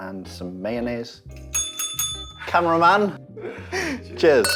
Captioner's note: bell ringing; chuckles